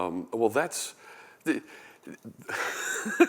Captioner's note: laughter